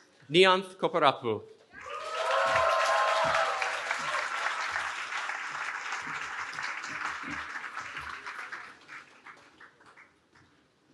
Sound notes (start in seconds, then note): 1.8 cheering